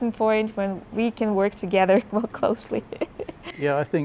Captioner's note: laughs